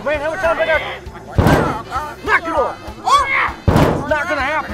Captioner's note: banging